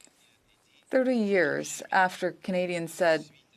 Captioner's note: speaking French